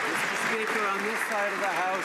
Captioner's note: some Applause